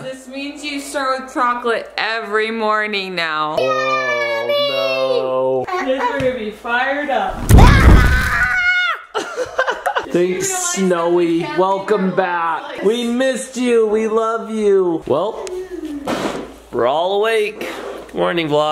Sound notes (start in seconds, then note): 7.3 flames crackle; 7.9 yells; 10.1 laughing